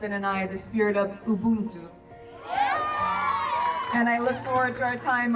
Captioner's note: group cheering